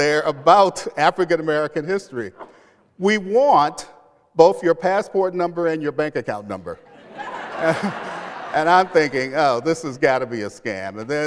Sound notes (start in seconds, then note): 6.8 laughter